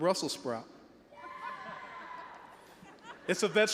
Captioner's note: all laughing